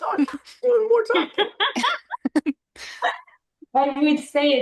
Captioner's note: laughter